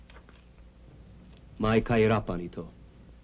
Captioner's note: speaking filipino